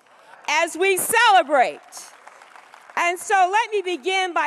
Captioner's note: applause